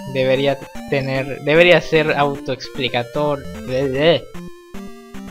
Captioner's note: blabbering